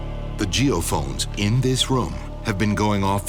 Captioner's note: voiceover